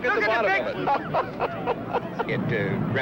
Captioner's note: laughing